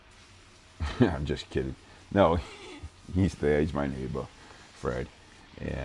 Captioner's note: laughing